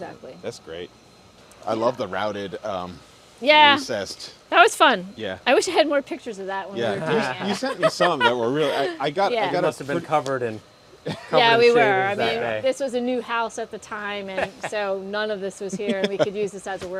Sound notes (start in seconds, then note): 6.9 laughs